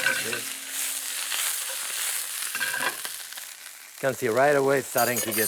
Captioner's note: sizzling